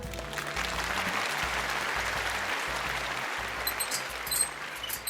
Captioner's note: audience applauding